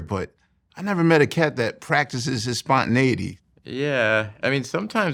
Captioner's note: none